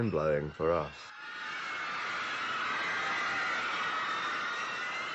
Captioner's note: screaming